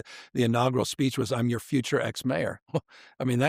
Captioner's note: chuckles